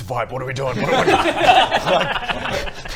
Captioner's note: laughter